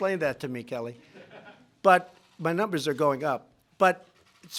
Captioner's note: laughter